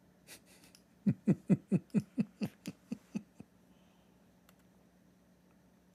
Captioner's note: Ketawa